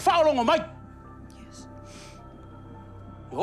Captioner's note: sniffles